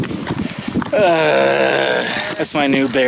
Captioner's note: continues to groan